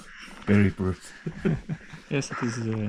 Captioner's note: breathing sounds crazy